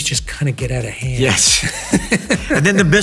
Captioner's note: both chuckling